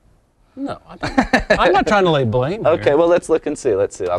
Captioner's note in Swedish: skratt